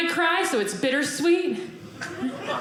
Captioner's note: audience laughing